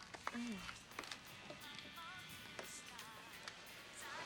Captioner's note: Jill groans